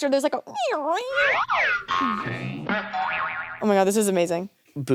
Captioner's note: squeaking; spring boinging; slide whistle whistling